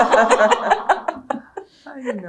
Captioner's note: laughter